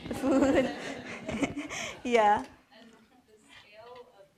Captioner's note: laughs